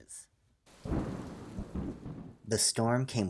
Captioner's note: thunder rain sounds